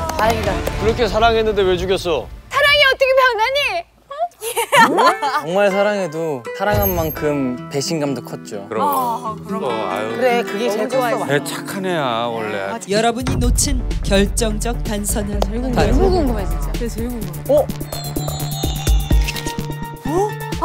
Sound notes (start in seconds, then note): 4.4 laugh